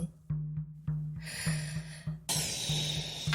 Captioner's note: suspenseful drum music; dirt clumps boinging; Koha sighing